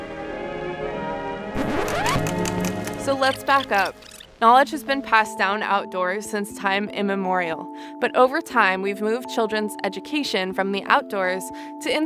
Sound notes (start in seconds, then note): 1.4 old-fashioned music; 1.5 record scratching